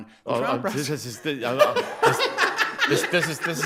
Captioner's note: everyone laughs